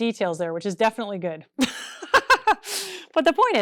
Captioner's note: laughs